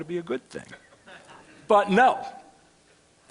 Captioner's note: laughter